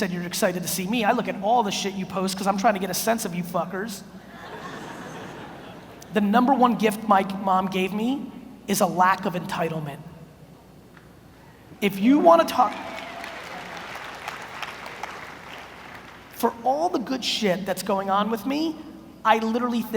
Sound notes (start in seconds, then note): 4.3 audience laughs; 12.4 audience applauds